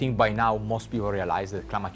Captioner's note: water rushing